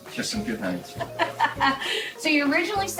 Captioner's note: laughter